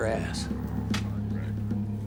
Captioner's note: pamphlet drops